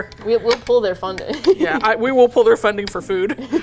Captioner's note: laughs